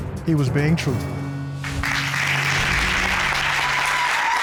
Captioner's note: applause